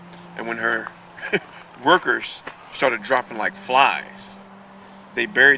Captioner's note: laughs